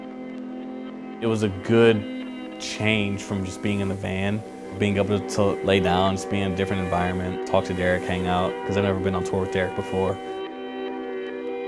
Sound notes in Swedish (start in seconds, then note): none